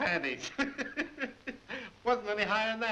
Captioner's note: Koeper laughs